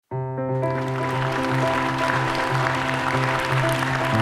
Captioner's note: audience clapping